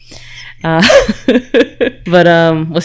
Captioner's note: laughs